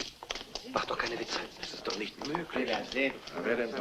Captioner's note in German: murmelt